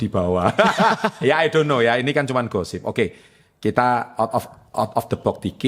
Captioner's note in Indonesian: tertawa